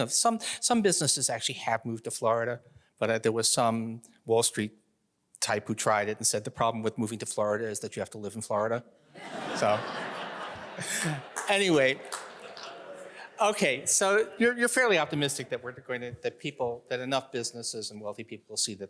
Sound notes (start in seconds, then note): 9.1 audience laughing